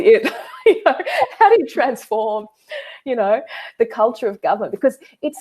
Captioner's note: laughing